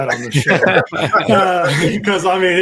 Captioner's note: all laugh